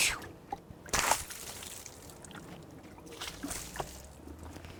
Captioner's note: water splashing